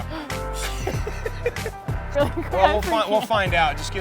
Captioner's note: laughs